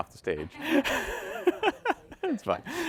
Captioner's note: all laughing